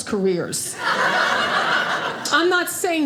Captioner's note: audience laughing